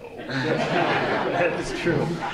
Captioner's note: laughter